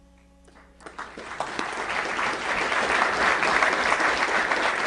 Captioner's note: applause